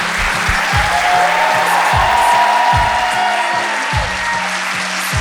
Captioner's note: audience cheering